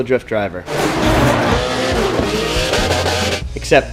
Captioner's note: motor revving